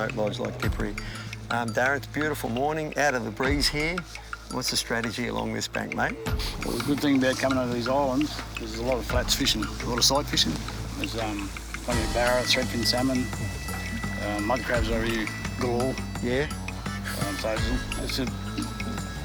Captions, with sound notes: Yeah, all day long up here. It's fantastic. (upbeat instrumental music) (water splashing) (water bubbling)